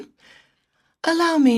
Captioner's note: speaking French